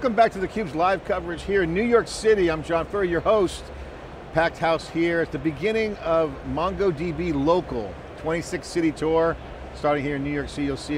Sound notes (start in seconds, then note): none